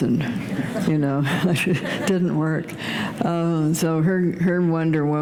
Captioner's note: laughter